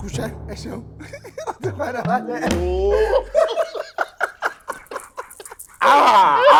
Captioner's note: everyone laughs